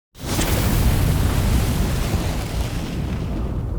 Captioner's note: flames igniting